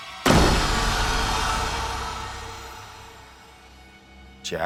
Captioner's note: door slams